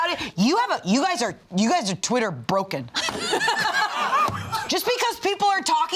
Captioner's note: all laughing